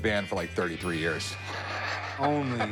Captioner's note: laughs